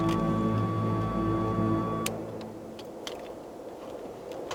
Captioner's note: car beeping; tense music; wind howling